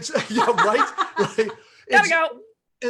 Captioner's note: laughs; murmurs